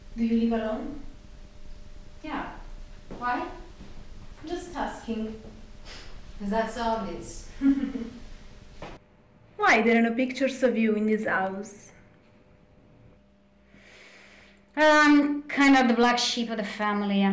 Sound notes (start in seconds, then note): 7.5 Linda chuckles